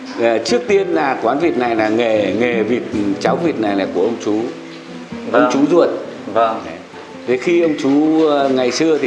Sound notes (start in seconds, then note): 5.3 chatting; 7.2 chatting